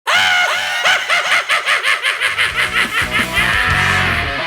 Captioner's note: laughing maniacally